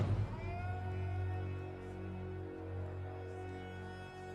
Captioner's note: crowd cheering